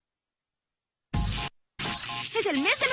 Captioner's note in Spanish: sonido de rayo eléctrico